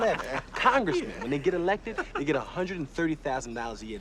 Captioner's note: laughing